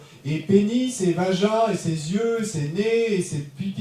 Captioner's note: speaking in French